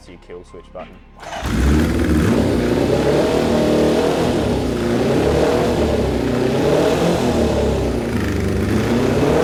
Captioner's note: engine revs